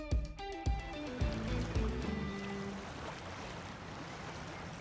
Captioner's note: waves rumbling softly